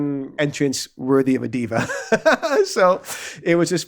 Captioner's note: laughs